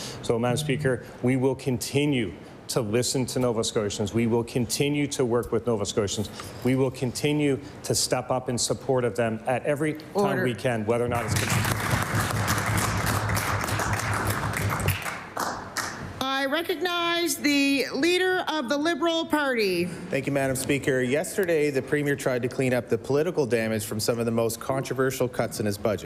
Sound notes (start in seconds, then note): 16.5 applause